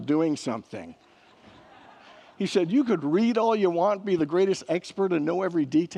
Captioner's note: congregants laugh